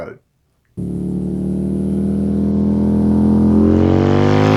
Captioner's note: motorbike roars